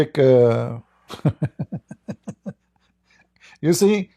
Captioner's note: Ketawa